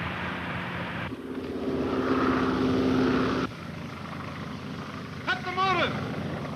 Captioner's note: airplane motor whirring